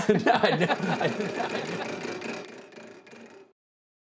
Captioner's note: wheel clicking